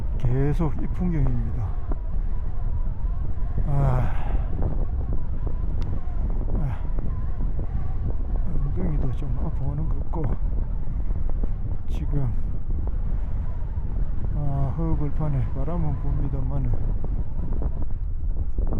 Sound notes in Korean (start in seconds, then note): 5.5 그의 지친 숨소리